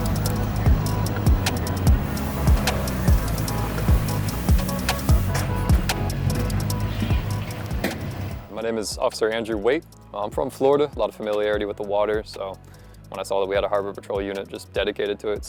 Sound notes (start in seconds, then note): 2.0 boat engine and other marina sounds